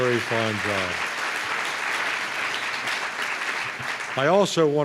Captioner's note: applause